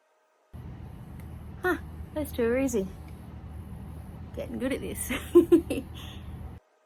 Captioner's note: giggles